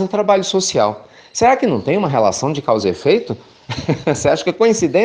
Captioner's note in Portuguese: risos